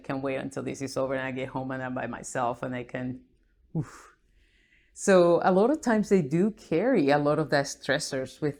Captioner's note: exhale